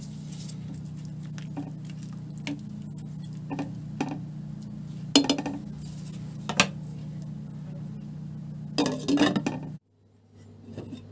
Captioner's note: low boiling water